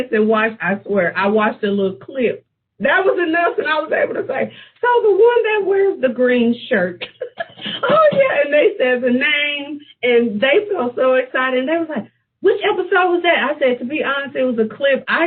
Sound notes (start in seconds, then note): 6.9 laughs